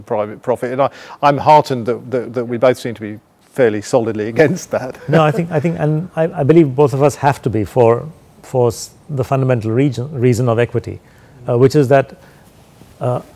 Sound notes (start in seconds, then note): 4.7 laugh